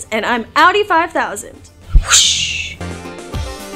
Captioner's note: whooshing